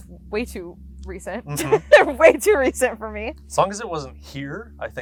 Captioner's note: laughs